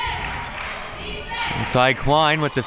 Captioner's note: claps